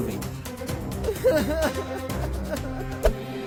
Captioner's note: crying